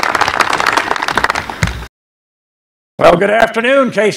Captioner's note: applause